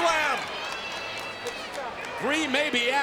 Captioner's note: spectators applauding